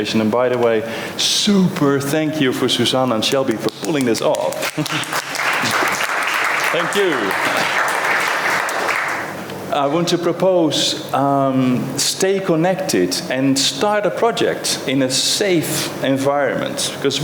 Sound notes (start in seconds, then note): 3.6 applause